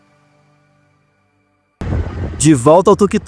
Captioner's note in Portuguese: Som de motor